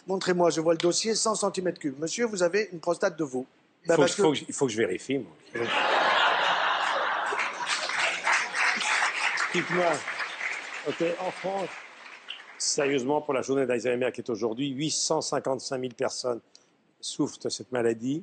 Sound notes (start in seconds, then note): 5.6 laughs; 9.1 audience clapping